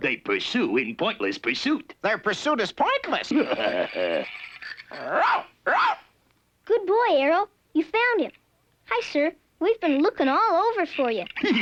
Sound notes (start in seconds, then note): 3.2 laughing; 5.6 Arrow barking; 10.9 laughing